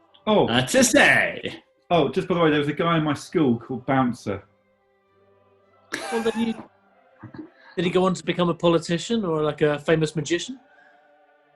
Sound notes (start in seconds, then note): 6.0 sniggering